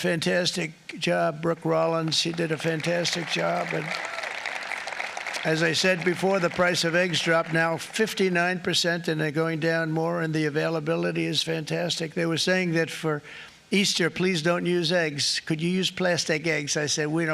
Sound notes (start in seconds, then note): 8.2 applause